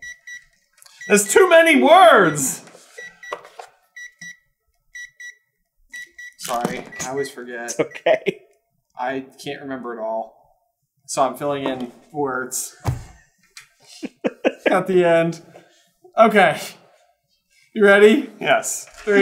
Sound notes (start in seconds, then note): 2.8 gentle beeping; 13.0 chuckling